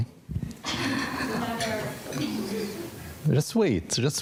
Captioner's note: audience laughing